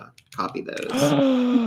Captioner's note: gasps